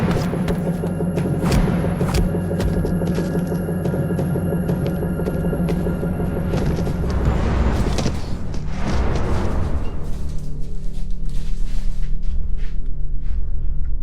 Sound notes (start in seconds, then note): 1.1 fists striking; 2.5 leg striking; 5.4 bodies scuffling; 5.4 dramatic music; 11.3 tense music